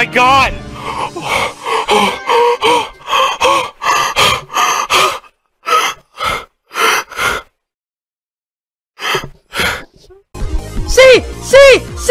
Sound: moans

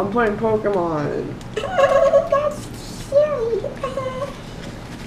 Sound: giggling

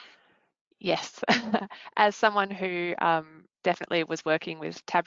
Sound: laughs

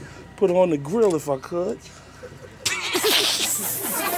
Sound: all laugh

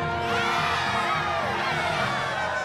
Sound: everyone cheers wildly

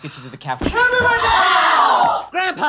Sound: all scream

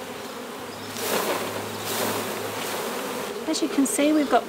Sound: rustling

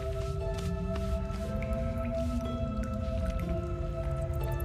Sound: dripping

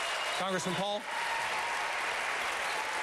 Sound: applause

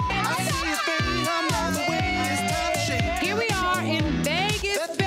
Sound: beep; girls cheering

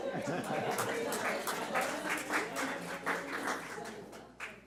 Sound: audience applauding

